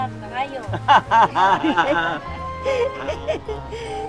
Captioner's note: everyone laughing